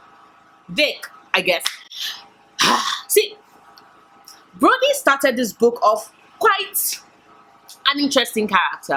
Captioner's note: sigh